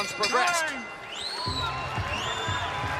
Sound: bell rings

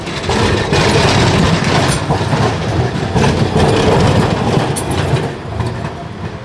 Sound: sound of train departing

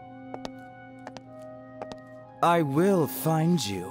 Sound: footsteps padding

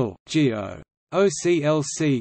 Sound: in German

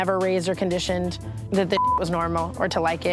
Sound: beeps

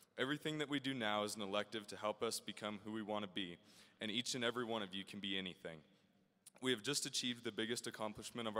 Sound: none

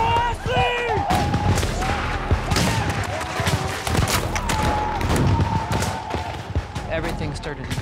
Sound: gunshots

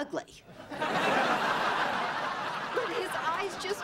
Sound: laughter

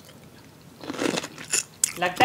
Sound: chomping continues

